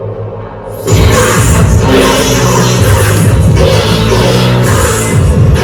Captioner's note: distorted noises